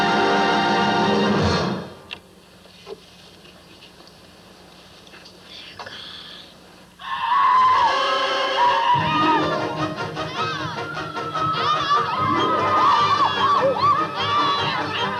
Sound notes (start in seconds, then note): 5.8 whispering; 7.0 shrieking